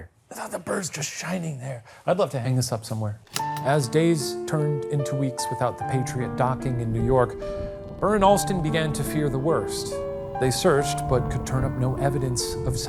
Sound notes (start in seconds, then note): 3.2 projector clicking; 6.4 thunder rumbling